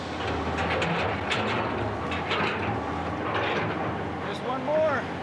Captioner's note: clanking sound